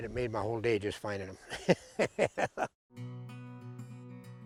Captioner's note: laughs